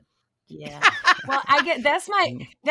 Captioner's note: laughing